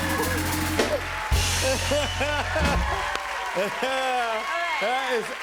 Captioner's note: cheers and applause